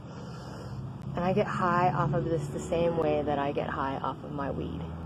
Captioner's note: inhale